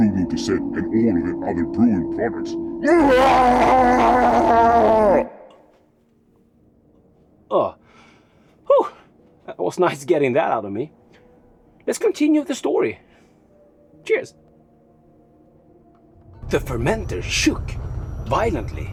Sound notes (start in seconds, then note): 2.8 screaming